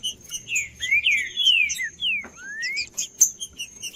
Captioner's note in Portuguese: trinca ferro cantando